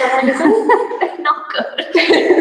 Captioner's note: laughs